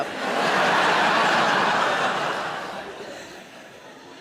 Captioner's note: audience laughing